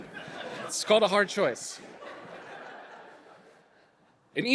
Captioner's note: audience laughing